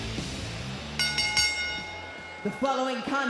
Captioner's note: bell rings